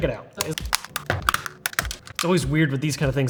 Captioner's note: controller parts snapping together